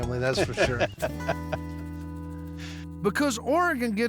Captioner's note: laughter